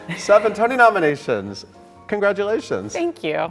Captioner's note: Sutton laughing